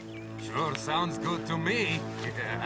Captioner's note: laughing